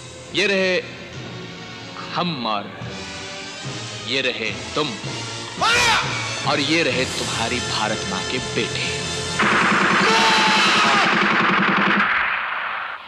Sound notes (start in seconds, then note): 9.4 gunfire